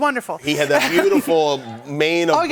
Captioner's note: laughter